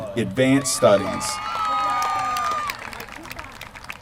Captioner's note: applause